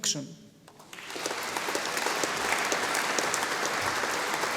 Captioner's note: audience applauding